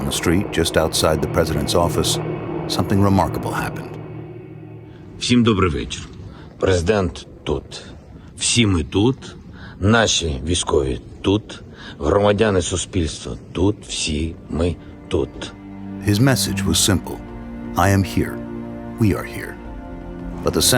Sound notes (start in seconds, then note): 5.1 Zelenskyy speaking in Ukrainian